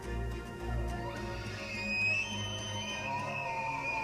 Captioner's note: high-pitched call